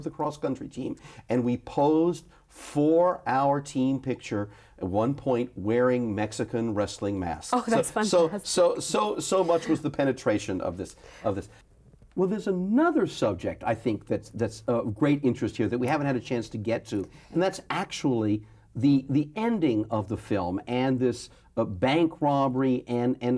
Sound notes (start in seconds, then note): 9.2 laughs